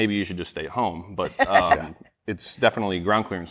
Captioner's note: laughter